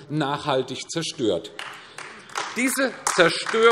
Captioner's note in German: Beifall AfD